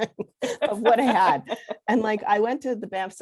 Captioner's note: laughing